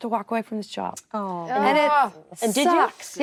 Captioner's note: actresses reacting